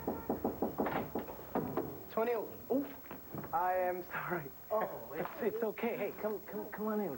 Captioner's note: knock on door